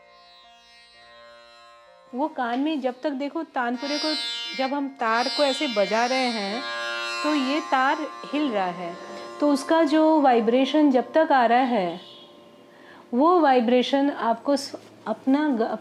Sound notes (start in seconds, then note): 3.0 speaking foreign language